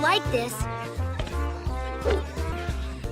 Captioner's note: pathetic Tails voice; pathetic Sonic voice